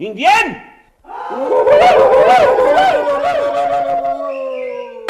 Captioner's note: shouts of Indians